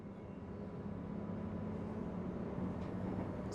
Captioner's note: bus driving along